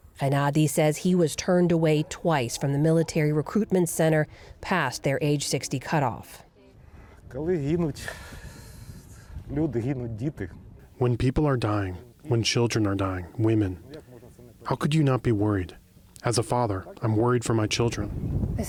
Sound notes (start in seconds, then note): 6.9 through translator